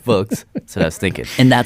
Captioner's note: laughs